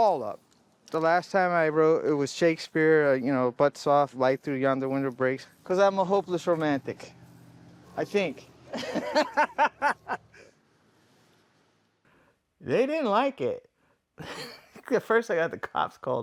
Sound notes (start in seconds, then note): 8.7 laughter